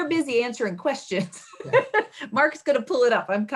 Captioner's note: chuckling